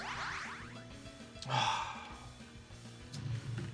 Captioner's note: sighs